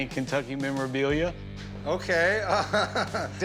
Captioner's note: laughing